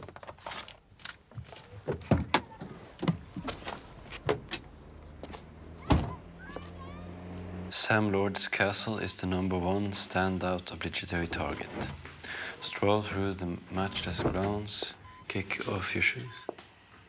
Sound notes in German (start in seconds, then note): 7.6 auf Englisch